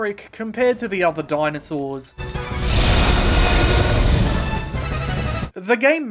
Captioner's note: T Rex rroaring